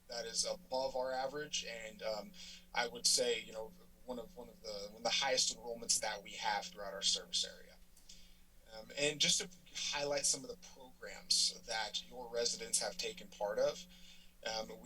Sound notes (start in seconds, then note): none